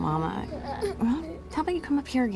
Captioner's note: children straining, grunting